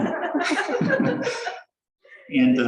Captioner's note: laughter